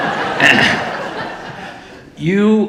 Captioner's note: audience laughing